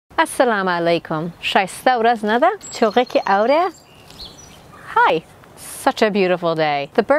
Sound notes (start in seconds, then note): 0.2 speaking Arabic; 2.5 birds chirping